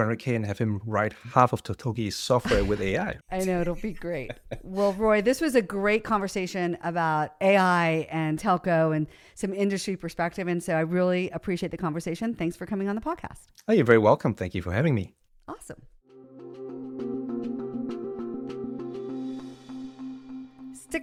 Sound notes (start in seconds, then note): 2.4 laughs